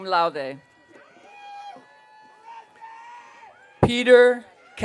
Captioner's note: audience cheering